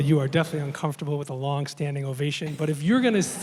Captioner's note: laughter